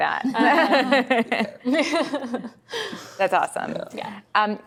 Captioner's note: laughter